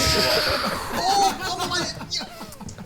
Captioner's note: players laughing